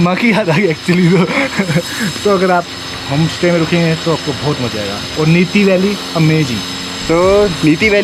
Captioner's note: laugh